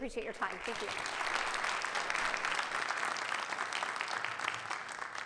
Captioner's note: audience clapping